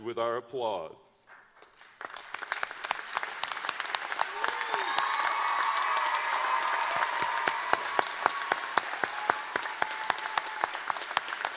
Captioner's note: applause